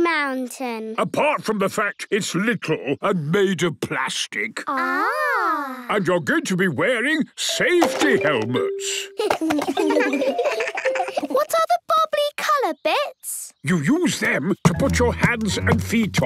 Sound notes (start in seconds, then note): 9.1 giggles